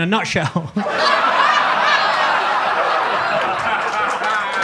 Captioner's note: audience laughs